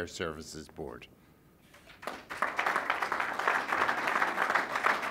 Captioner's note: applause